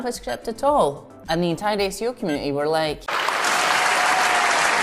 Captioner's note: crowd applauds